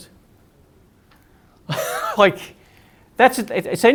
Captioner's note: laughs